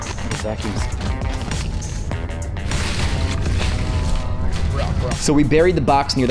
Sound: rustling sound

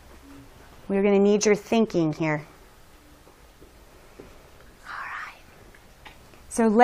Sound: whispering

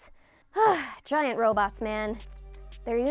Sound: sighing

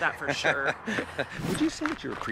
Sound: laughing

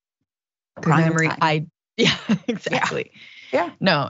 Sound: laugh

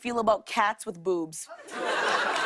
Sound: laughter and applause

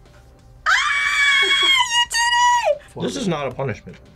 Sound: screams

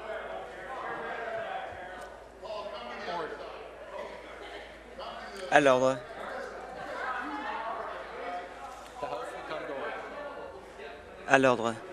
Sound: conversation din

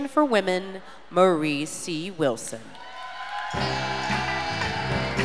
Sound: audience cheers and applauds

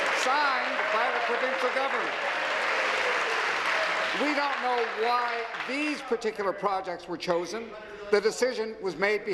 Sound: applause

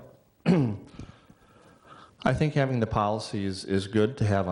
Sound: clearing voice

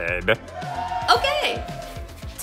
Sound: cheers

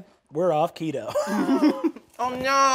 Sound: laughing

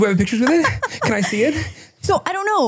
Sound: laughing

